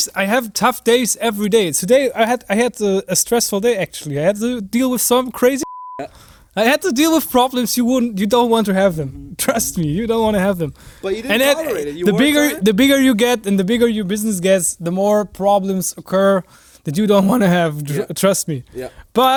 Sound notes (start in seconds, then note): 5.6 beep